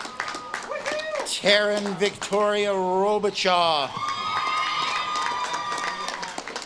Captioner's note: audience claps and cheers